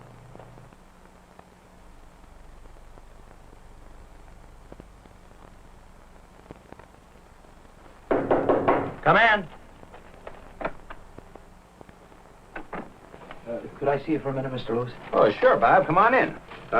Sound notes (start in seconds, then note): 8.1 knocking